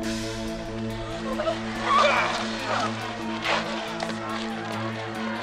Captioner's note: people chatter indistinctly; dramatic music